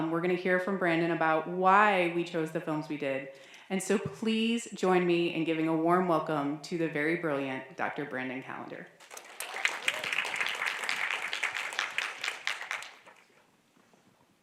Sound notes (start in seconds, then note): 9.0 audience clapping